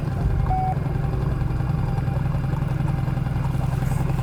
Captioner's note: magnetometer beeps